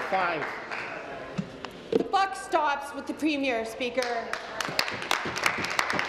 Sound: applause

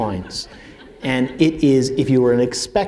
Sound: laughter

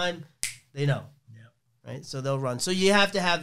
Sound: snaps fingers

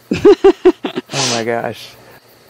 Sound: laughing

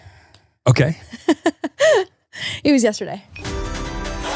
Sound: laughs; upbeat music

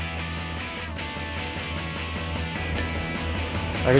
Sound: crunches

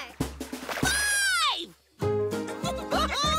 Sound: laughing

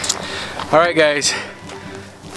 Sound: heavy breathing

